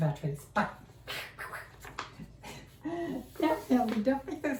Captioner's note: weird mouth noises